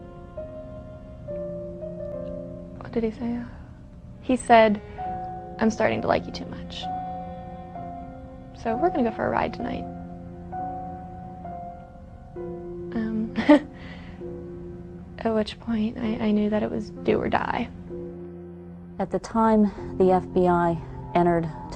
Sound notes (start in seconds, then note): 6.9 laughter